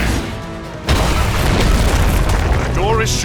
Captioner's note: crash